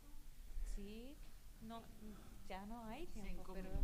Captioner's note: speaking spanish